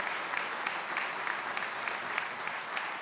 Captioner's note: applause